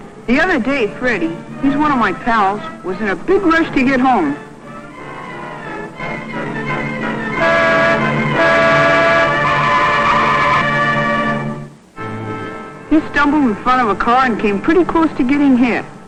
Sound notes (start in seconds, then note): 7.3 car horn blares; 9.4 brakes screeching